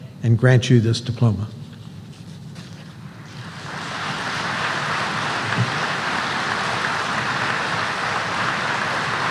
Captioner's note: applause